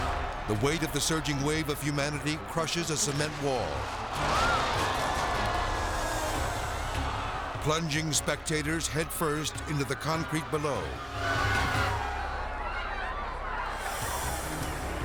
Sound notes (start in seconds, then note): 3.9 crowd screaming; 3.9 wall crashing; 11.5 crowd clamoring